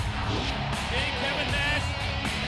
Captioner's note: graphic whooshes